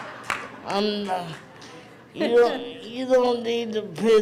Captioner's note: crowd laughs